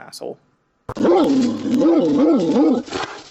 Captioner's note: angry dog sounds